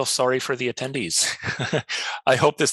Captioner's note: chuckles